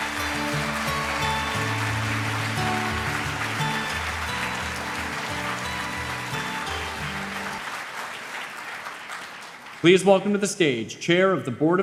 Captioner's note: applause